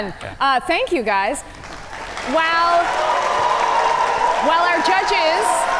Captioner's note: audience applaud